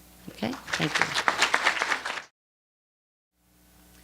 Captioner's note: applause